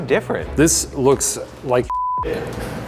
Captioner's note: beep